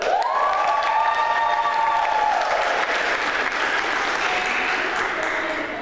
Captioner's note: applause